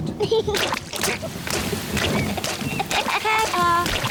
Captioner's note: giggling; thunder rumbling